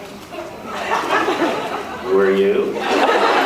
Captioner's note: laughs